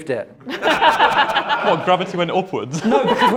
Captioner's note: laughter